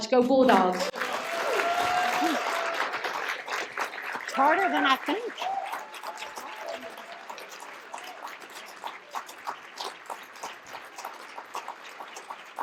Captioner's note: applause